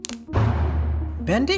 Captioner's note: cracks knuckles